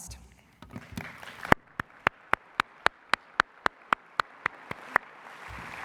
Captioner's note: applause